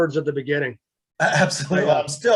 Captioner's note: laughs